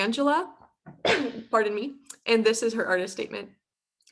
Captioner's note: coughs